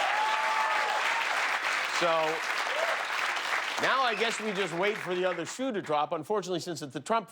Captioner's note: cheers and applause